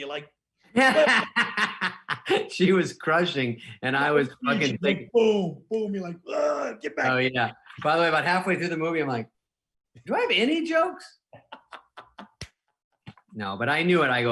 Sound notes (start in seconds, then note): 0.7 laughing; 6.8 grunts; 11.3 laughing